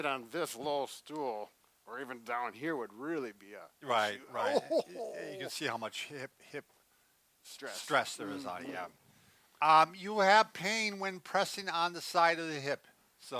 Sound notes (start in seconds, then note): 4.3 chuckles